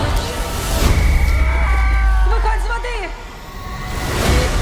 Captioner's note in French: sifflet